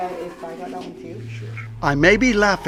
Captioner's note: Amanda muffled